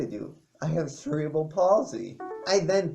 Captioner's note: Ping of Kindle in the background